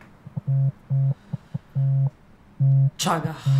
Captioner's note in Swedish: ljudlös telefon som ringer